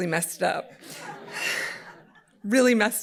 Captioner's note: audience laughing